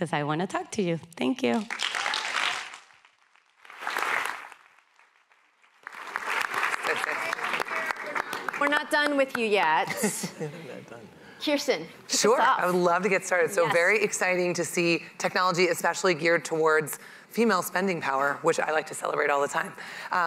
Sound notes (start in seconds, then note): 2.2 cheering, applause; 9.9 chuckling